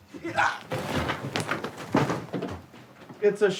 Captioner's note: grunting; fabric thudding